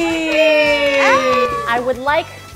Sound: all cheering

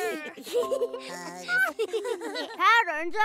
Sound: all laugh

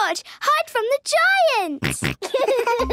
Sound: giggles, snorts

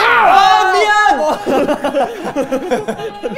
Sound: haha

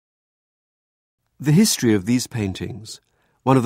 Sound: voiceover

